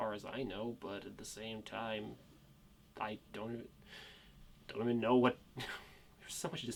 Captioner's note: sighs